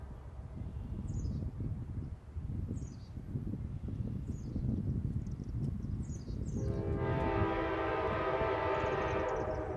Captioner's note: wind blowing